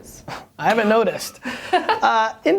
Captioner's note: laughter